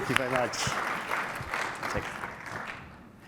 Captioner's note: applause